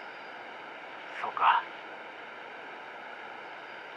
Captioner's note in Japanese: none